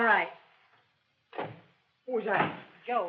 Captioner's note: door shuts